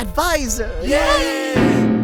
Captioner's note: everyone cheers